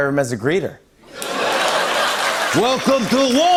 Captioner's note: laughter and applause